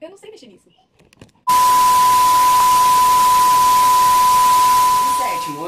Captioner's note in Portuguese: barulho chiado e apito de TV